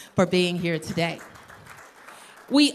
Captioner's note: applause